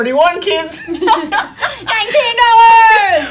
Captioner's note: girls laugh